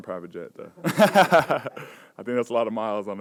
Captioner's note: laughs